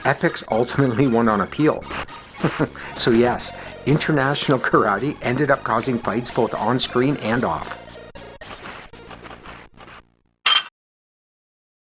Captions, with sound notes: Epyx ultimately won on appeal. [chuckles] So yes, International Karate ended up causing fights both on-screen and off. [clank]